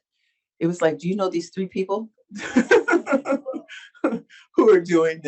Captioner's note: laughs